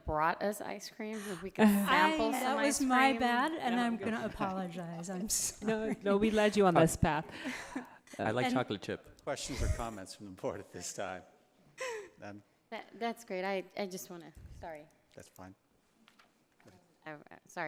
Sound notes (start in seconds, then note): 5.6 laughs